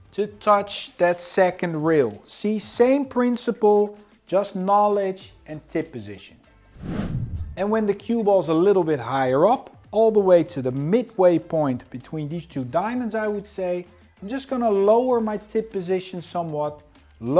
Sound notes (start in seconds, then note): 6.7 transition whooshes; 7.2 upbeat music continues